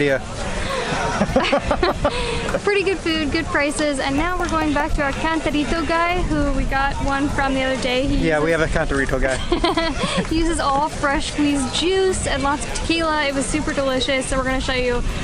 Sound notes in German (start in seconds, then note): 0.7 Gelächter; 9.4 Lachen